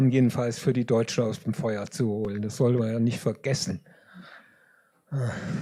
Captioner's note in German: seufzt